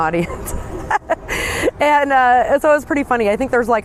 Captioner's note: laughing